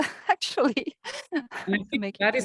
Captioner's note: chuckling